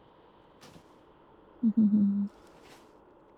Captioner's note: laughs